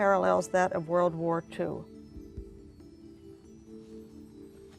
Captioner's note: none